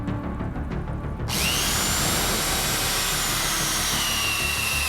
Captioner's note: drill buzzes